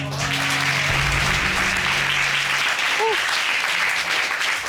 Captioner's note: applause